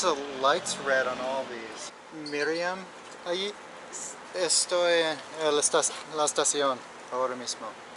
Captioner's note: murdering the Spanish language